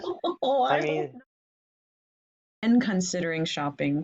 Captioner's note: laughing